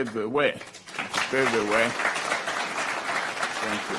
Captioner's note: applause